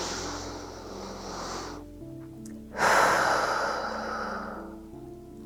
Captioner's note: breathes deeply